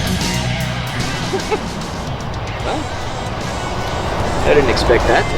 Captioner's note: Steven chuckles